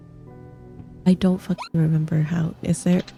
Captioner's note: hyucking